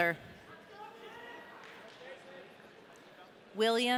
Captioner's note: audience cheering